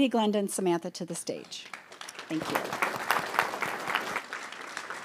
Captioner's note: audience applauds